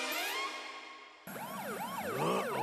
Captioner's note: police siren wailing